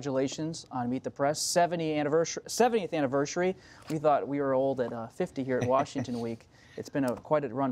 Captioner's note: laughter